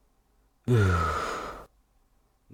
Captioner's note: sigh